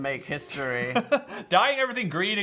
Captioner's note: Phil laughs